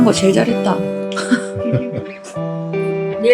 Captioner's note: laughs